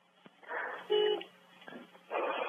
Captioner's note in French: coup de klaxon